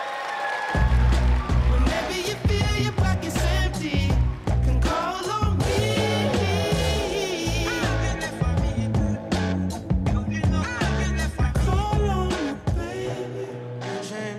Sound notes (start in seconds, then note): 3.1 cheering and applause